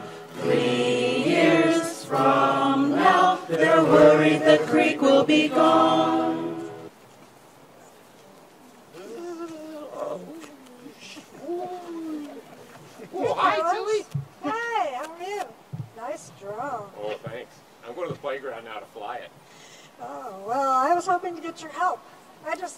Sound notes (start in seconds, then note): 10.5 drone sound